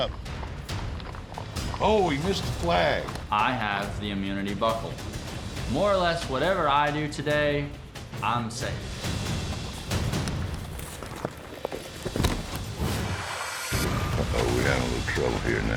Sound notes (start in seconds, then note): 9.8 hoofbeats; 12.5 falls down; 13.6 splashing